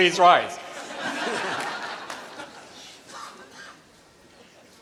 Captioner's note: laughter